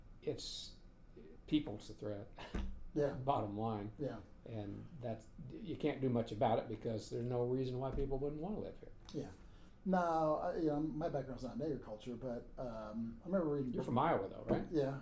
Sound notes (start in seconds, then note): 2.9 laughing